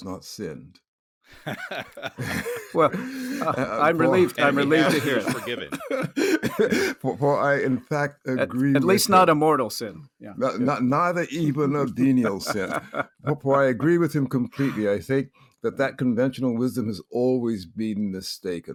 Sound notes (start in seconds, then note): 1.3 laughs; 8.2 laughing; 11.6 laughing